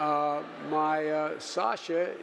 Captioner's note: audience laughing